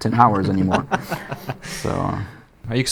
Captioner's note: interviewer laughs